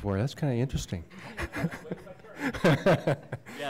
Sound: laughter

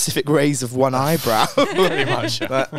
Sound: chuckles

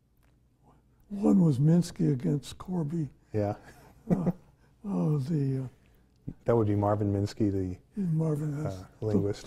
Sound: laughs

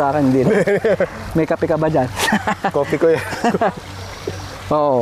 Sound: laughs

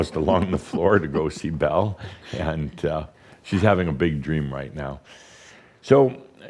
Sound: giggles

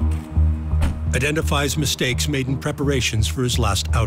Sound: card door thuds shut

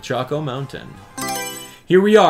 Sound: Mario Selection Sound

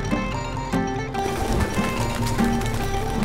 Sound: pigeons flying

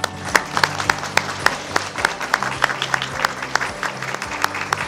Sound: audience applauding

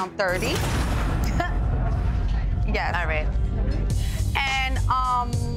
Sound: chuckles

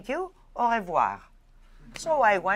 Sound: french

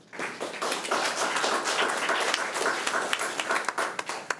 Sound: crowd clapping

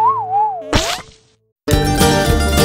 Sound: whistling; splash; upbeat country music

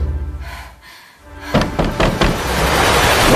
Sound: knocking on the door

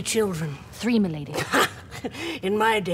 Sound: laughs

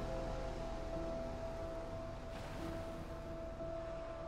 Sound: waves crashing

